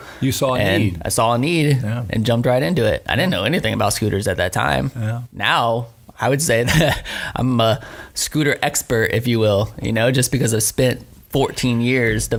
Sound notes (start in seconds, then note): 6.6 laughing